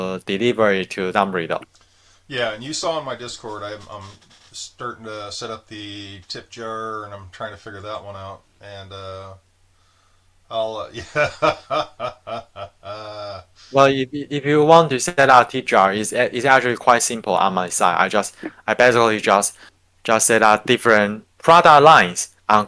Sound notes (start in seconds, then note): 10.9 laughing